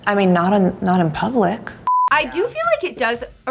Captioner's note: high pitched beep